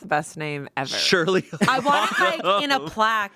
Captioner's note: laughs